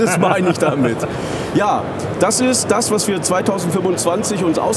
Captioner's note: chuckles